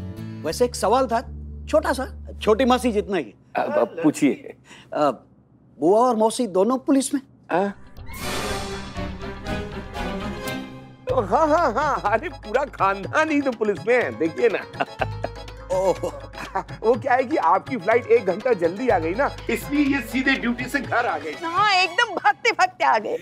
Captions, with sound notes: I had a small question. Like the small aunt. Please, go on. Both the aunts are in the police force? [dramatic music] Yes! My whole family is in police! [chuckling] - Oh. Your flight landed an hour early. So they came here directly from their duty. Yes, we ran and came here.